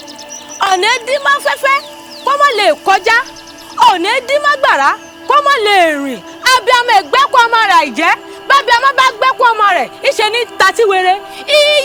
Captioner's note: incantation